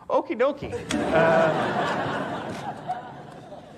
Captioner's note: audience laughs